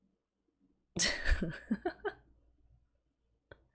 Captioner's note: laughs